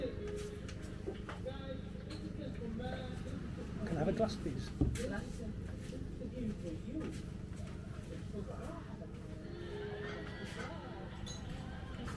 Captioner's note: laughs